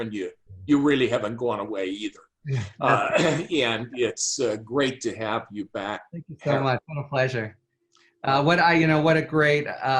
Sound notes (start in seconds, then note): 2.5 both chuckle